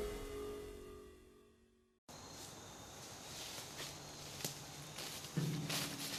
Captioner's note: music fades; walking in leaves